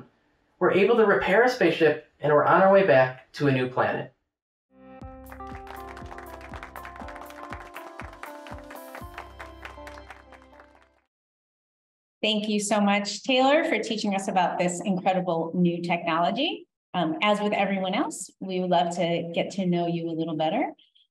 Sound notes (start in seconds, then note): 4.8 upbeat music; 5.2 hands clapping